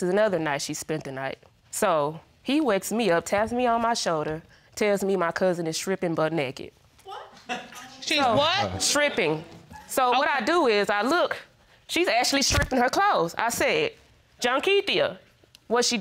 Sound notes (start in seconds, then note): 7.5 man chuckles